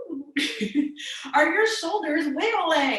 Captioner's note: she laughs